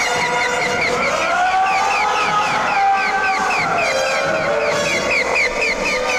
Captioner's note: eerie music; Chooper screaming; eerie music